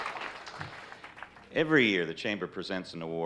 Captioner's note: on microphone